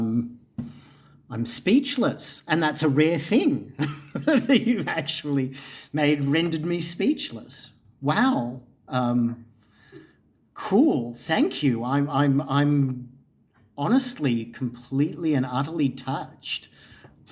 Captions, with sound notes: I'm speechless, and that's a rare thing (laughs) that you've actually made - rendered me speechless. Wow! Cool. Thank you. I'm honestly completely and utterly touched.